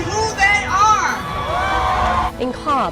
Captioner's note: crowd cheers